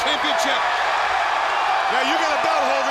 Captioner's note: crowd cheering